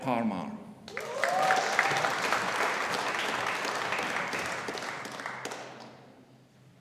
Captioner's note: audience applauding; audience cheering